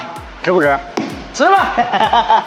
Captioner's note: laughs